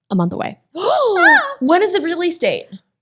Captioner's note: ladies exclaiming